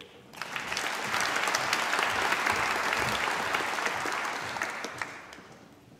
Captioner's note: applause